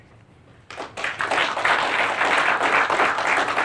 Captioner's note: class applauds